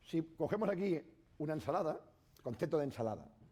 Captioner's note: speaking spanish